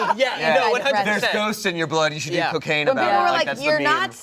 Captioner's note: chorus of agreement